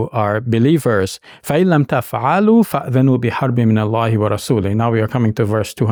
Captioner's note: speaks in Arabic language